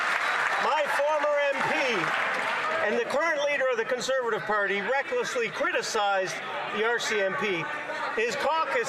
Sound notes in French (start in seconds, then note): 0.0 applaudissements; 1.6 voix de l'interprète